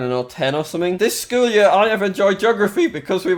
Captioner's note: mockingly